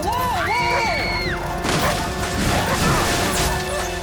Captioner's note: Ryan screaming